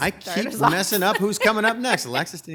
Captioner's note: laughing